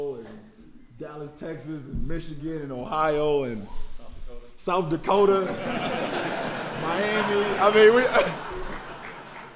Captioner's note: laughter